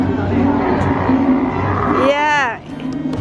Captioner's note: camel groans